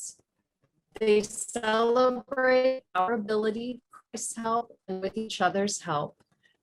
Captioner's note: audio distorts